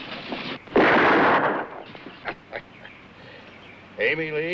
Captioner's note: gun firing